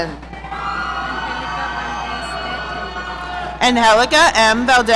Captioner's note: audience cheering